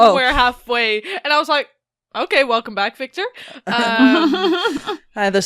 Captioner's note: laughter